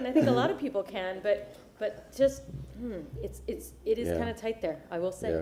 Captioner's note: laughter